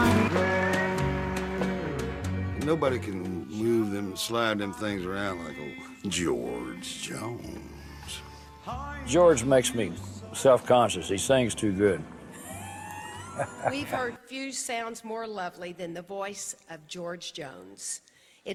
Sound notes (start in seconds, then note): 2.7 singing; 12.1 laugh